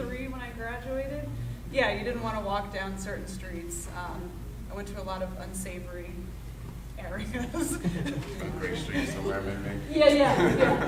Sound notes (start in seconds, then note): 7.6 laughing; 7.7 laughing drowns out speaker